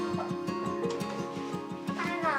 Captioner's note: door opens